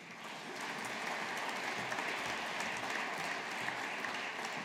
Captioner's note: audience applauding